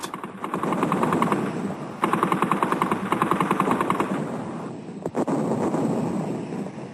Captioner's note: heavy artillery booming; guns blasting